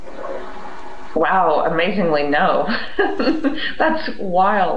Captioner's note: laughs